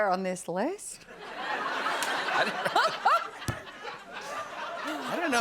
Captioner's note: laughter